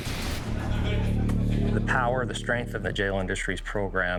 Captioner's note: inmate laughing